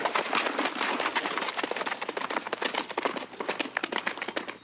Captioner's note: horse galloping